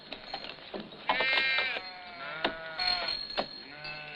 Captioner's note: sheep bleating